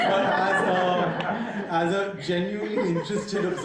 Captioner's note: audience laughing